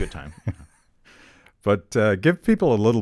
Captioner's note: chuckling